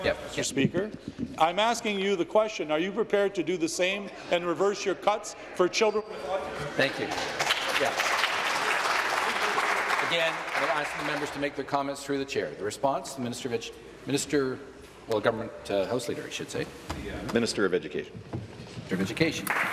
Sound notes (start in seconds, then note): 10.4 applause